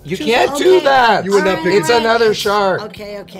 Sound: arguing

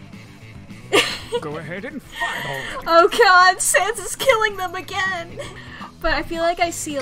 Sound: laughs

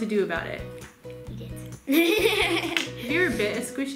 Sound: laughs

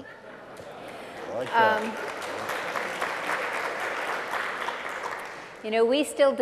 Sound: applause

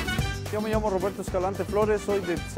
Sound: speaking spanish

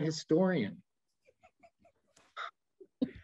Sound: laughs

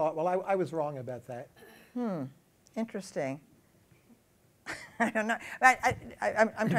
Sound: laughs

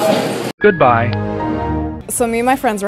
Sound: gentle electronic tones

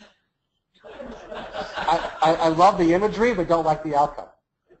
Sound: laugh

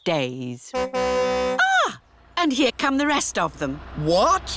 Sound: car horn tootles

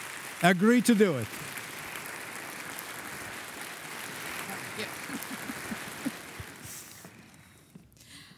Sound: applauding

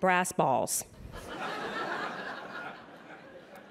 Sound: laughter

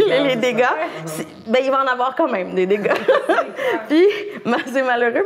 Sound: laughs

